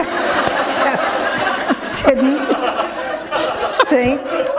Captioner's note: laughter